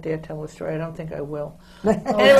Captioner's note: laughter